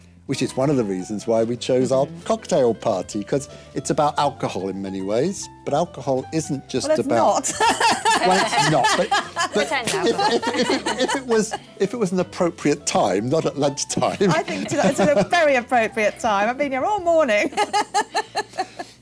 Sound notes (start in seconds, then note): 7.4 laughter; 7.4 laughs; 18.4 laughs